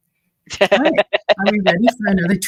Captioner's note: laughing